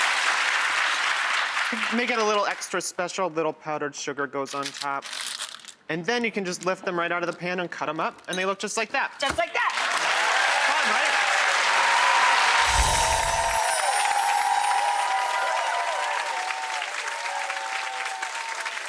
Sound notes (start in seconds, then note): 0.0 audience applause; 5.0 parchment crunching; 10.1 audience applause; 12.6 swoosh; 13.6 audience applause; 13.6 jingling